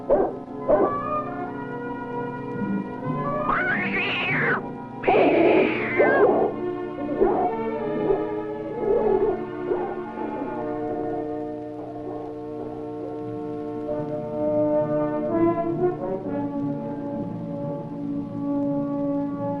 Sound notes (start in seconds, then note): 3.4 cat screeching; 6.7 dog barking